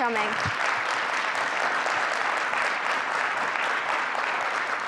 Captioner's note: audience clapping